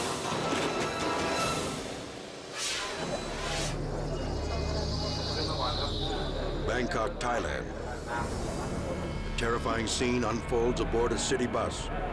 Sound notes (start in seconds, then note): 3.3 tense music; 3.8 people murmuring